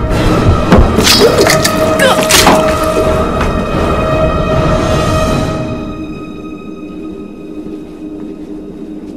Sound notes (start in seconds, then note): 0.0 dramatic music; 1.9 Ciara groans